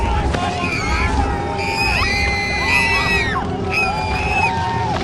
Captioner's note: women screaming